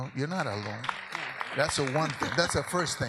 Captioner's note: audience laughs